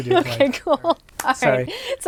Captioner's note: laughing